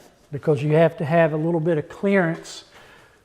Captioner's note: none